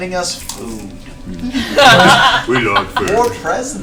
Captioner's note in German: Gelächter